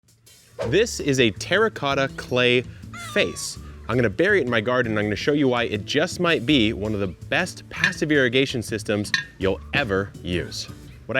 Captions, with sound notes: (air whooshes) - This is a terracotta clay face. I'm gonna bury it in my garden and I'm gonna show you why it just might be one of the best passive irrigation systems you'll ever use.